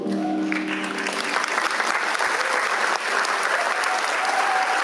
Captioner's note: crowd applauding